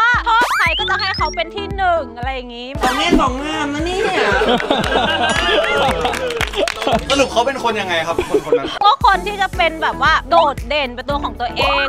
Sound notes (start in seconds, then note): 3.2 laughs; 4.3 applauding